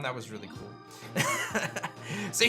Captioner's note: laughs